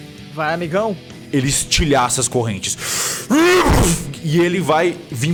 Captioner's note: arrrgh